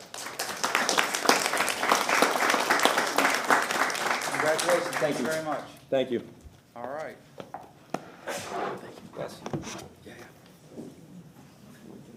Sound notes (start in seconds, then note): 3.5 applause